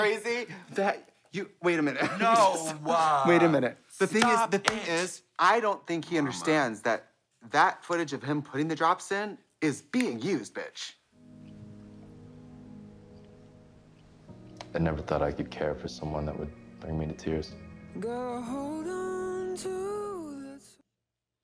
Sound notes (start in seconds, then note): 9.5 snaps